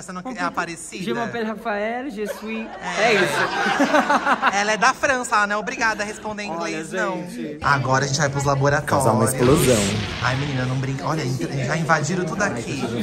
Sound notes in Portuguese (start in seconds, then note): 1.7 fala francês; 2.2 risos